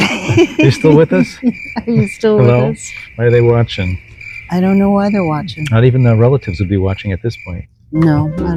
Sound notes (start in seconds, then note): 0.0 cricket sounds